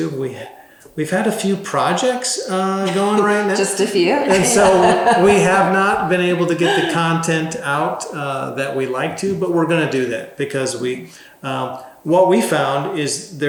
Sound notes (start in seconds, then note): 4.2 laughs